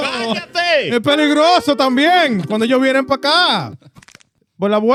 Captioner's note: speaking In Foreign Language